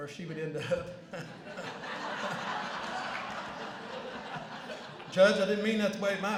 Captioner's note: laughter